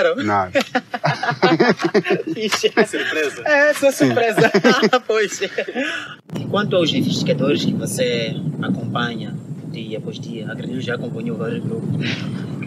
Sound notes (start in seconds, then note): 0.1 laughs